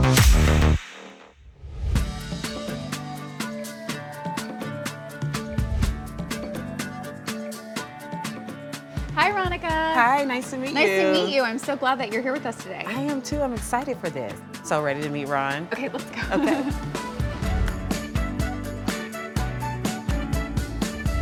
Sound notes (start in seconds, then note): 0.1 vibrant music fades; 2.1 cheerful music; 15.7 chuckles; 17.5 cheerful music continues